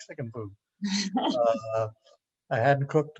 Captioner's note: laughs